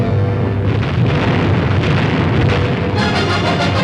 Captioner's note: explosions